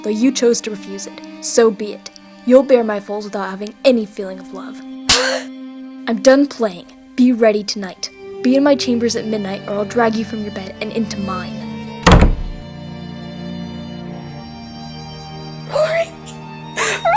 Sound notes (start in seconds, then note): 5.1 Avila gasps; 12.0 door shuts